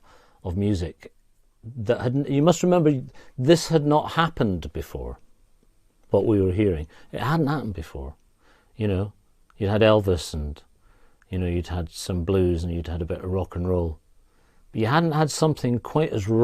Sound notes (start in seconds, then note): none